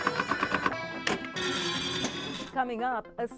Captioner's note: upbeat music; machine dinging